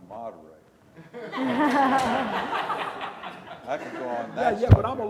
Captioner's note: audience laughs